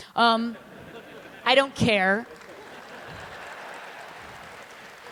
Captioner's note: applause